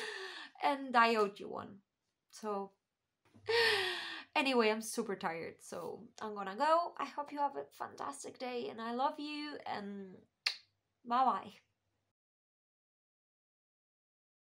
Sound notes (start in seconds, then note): 10.4 kiss